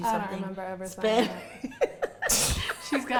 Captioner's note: laughing